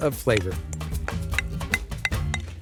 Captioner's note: spoon hitting bowl